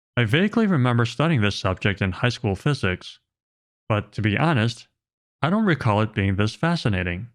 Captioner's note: none